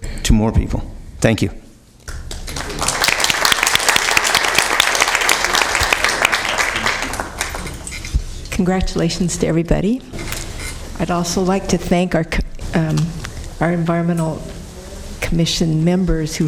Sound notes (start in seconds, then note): 9.6 applause